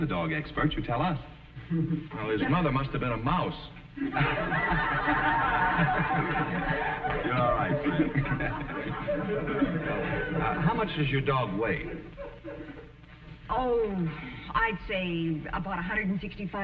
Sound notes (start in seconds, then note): 0.1 audience laughing; 7.3 audience laughing